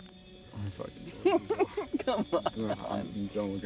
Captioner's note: laughing